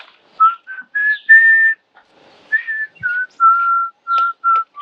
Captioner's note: whistling